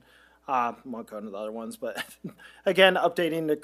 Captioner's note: laughs